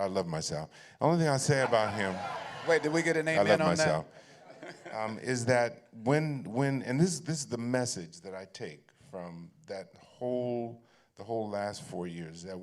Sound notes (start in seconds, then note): 4.2 laughter